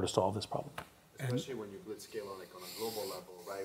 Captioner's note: voiceover